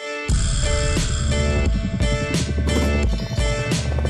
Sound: helicopter blades whirring

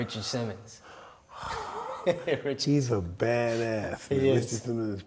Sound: both laughs

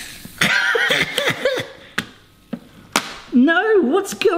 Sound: laughing

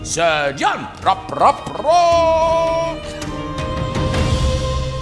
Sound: mocking

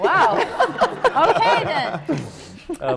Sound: laughter

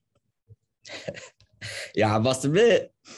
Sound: chuckling

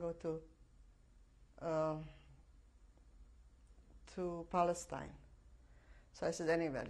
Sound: pauses for 3 seconds

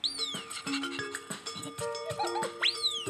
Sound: panting, giggling

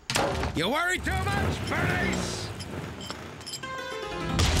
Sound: engine revving

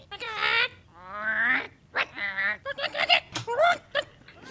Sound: bird sounds

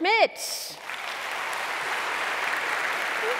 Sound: applause

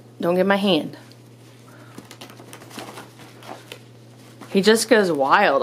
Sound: rustling noises

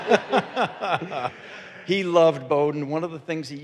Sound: audience laughing

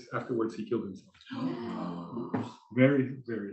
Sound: gasping

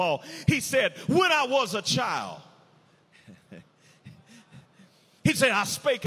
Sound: chuckles

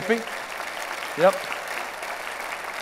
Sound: applause

